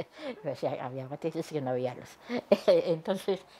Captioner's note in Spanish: risas